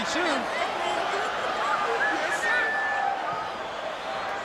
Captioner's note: crowd cheering